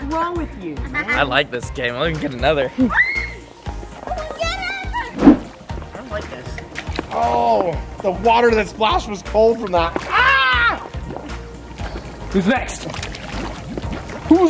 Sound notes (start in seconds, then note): 2.9 screams